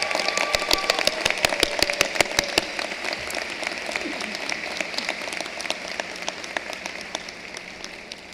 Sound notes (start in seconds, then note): 4.4 cheering and applause